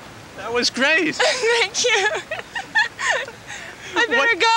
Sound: laughing

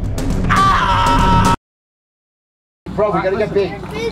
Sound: screaming

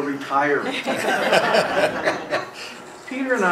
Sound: laughing

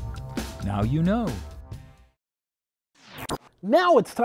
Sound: sound Effects

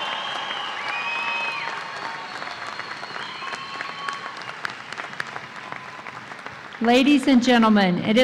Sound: cheers and Applause

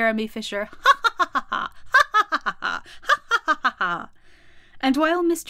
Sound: laughter

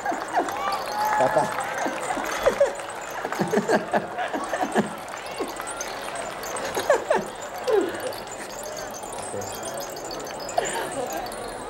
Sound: laughter; shaking rattle all over around boy

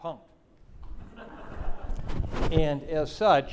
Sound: audience laughing

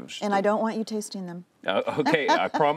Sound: laughter

